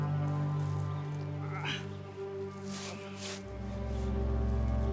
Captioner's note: Arawn groaning